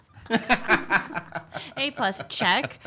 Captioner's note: laughs